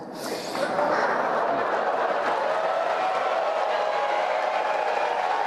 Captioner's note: cheers and applause